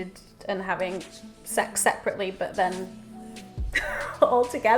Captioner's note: laughs